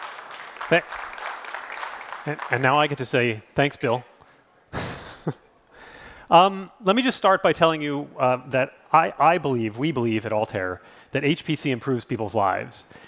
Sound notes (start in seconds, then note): 0.0 applause